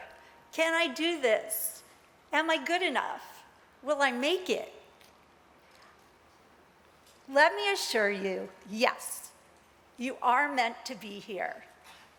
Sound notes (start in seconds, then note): none